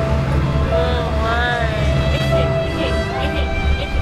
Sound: crying

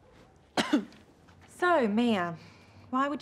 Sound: coughs

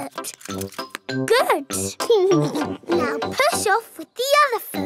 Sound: chuckles

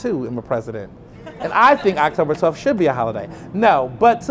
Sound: laughter

